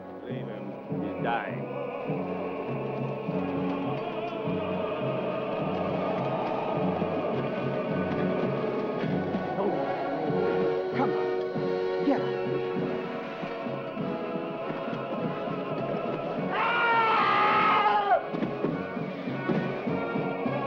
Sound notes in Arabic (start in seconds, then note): 2.8 موسيقى درامية; 12.6 موسيقى درامية; 16.5 صرخات الجندي